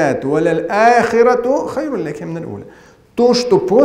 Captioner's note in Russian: Говорит на арабском